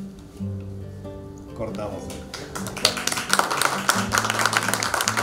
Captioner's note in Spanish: aplausos